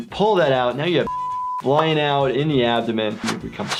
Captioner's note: beep